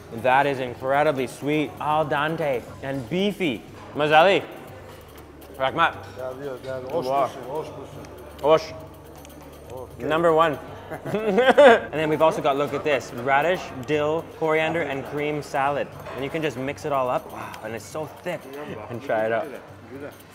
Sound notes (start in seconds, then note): 3.9 in foreign language; 10.5 laughing